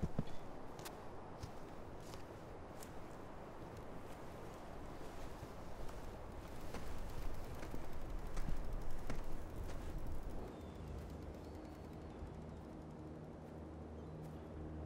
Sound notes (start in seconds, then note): 6.6 bicycle spokes spinning